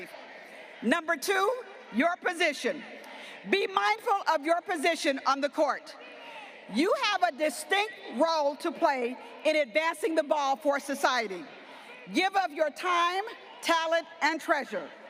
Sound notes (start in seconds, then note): none